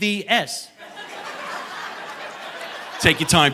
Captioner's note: audience laughing